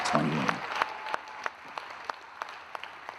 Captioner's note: claps